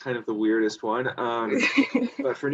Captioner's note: laughs